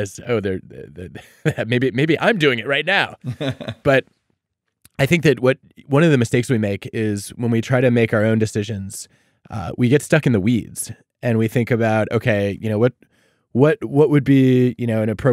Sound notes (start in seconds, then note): 3.1 laughing